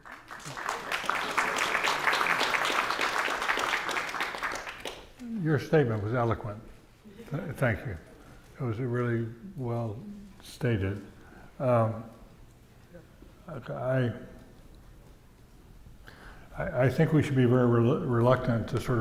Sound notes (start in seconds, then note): 0.0 audience applauding